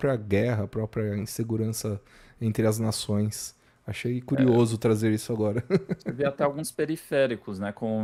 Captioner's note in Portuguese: risadas